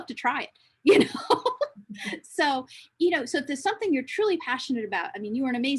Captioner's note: laughs